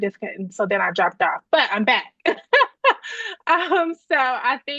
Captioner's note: laughing